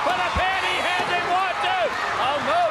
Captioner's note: crowd cheering